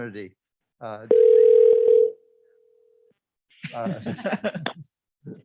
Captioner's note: phone ringing